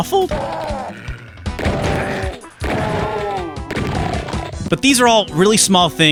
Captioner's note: slightly low-quality, clipping sounds of carnage